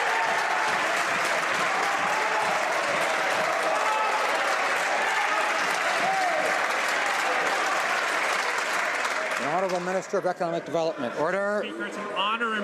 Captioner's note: some Applause